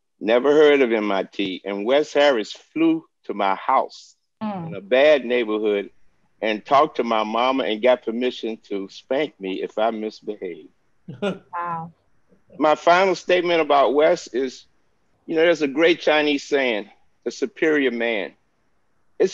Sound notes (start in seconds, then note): 11.1 chuckling